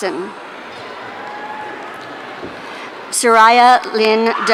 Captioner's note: audience cheering